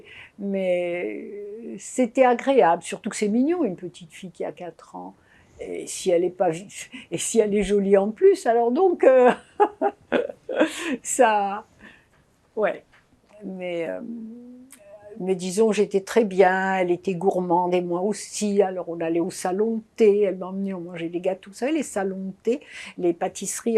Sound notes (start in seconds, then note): 9.4 laughing